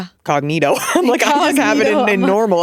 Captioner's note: laughing